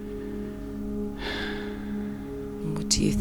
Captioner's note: sigh